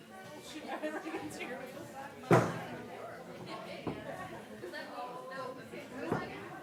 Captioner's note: background chatter